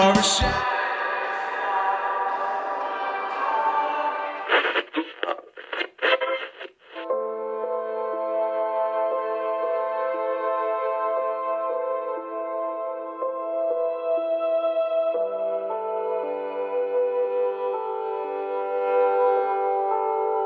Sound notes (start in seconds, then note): 4.4 radio tuning; 7.6 sad music